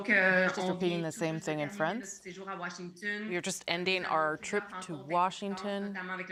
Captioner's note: speaking french